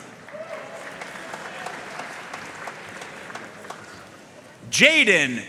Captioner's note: audience cheering and applauding